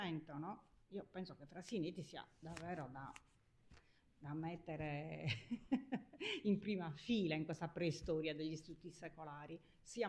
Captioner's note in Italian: risate